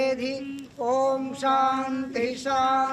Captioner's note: chanting